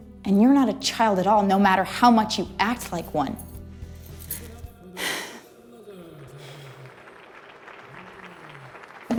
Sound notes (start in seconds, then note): 4.9 exhales in frustration; 6.3 front stage applause